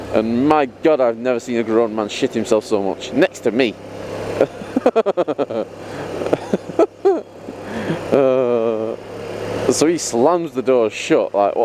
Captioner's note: laughs